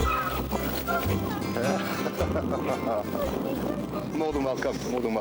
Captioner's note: laughs